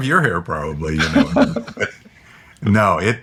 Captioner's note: laughing